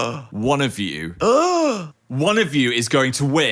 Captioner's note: gasps